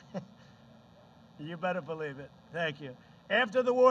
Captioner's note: laughs